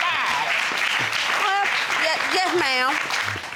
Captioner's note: audience applauding